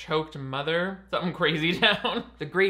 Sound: chuckles

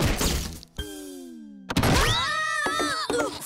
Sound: screaming

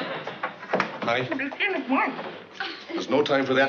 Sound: mumbling

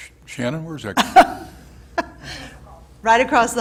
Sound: laughs

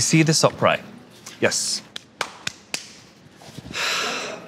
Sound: Tan claps

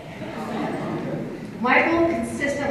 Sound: low chuckling

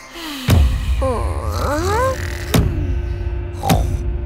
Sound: knocking

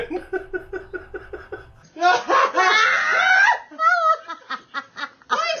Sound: laughing

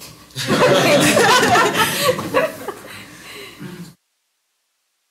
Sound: laughter

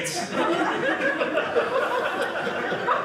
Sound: audience laughing

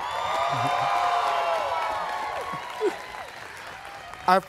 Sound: students cheering

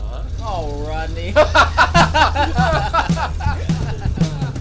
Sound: laughing

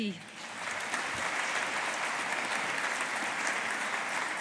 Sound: audience applauding

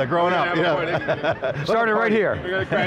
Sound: laughing

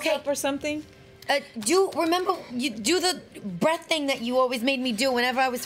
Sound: stammers

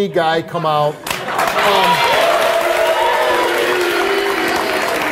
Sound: audience applauds

